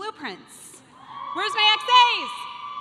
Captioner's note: audience cheering